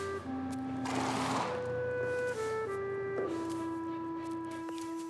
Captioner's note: horses snorting